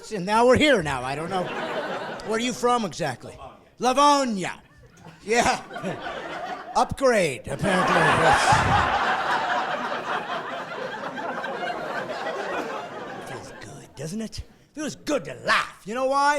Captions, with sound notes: Franklin Springs, it's like a doorstop, Franklin Springs is. Now we're here now, I don't know. Where you from exactly? - [Voiceover] Lavonia. - Lavonia. Yeah, upgrade apparently. (laughing)